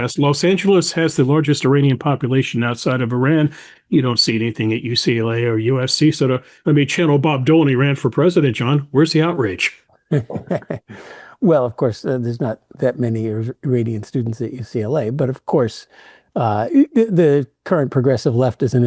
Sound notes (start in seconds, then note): 10.1 chuckles